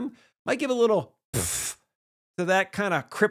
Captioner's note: blows raspberry